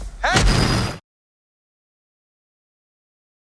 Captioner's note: train slams